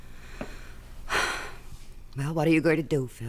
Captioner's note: footsteps departing; sighs